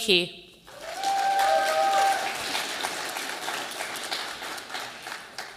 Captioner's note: audience applauding